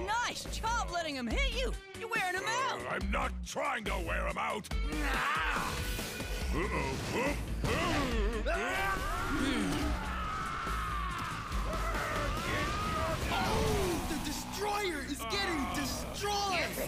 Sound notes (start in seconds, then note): 7.6 grunting; 9.1 roaring; 9.2 grumbling; 12.0 shouting